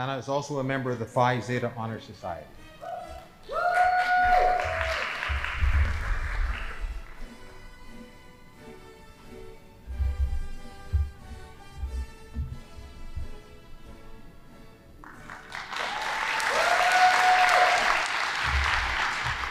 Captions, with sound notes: - Anna is also a member of the Phi Zeta Honor Society. (audience applauding) (band playing) (audience applauding)